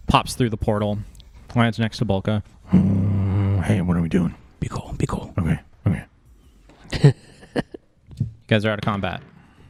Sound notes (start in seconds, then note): 3.9 whispering; 6.8 laughs